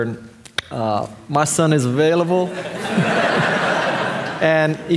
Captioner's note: audience laughing